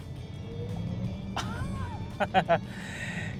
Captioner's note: laughs